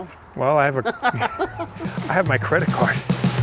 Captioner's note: laughing